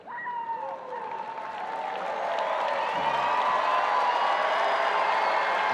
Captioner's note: audience applauding and cheering